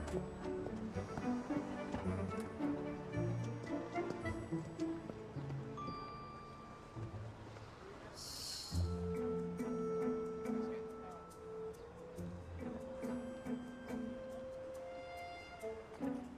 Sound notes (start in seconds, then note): 5.8 phone chiming; 7.7 sighing